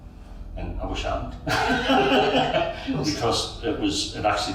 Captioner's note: all laughing